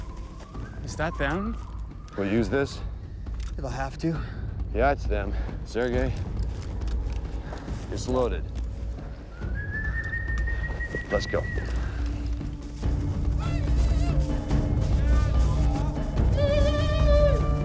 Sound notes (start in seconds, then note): 14.1 whistling